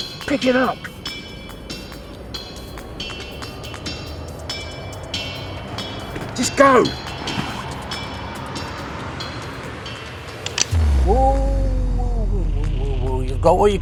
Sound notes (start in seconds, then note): 1.3 suspenseful music; 10.4 gun cocking